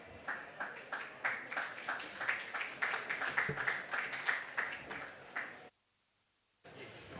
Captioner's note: applause